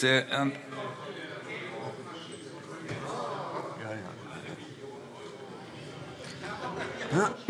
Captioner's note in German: Zurufe Freie Demokraten und AfD